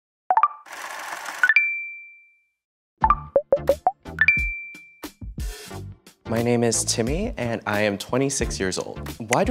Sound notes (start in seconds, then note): 0.0 electronic beep; 0.9 counter ticks; 1.7 electronic beeps